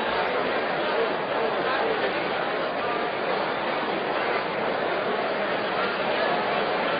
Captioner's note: general conversation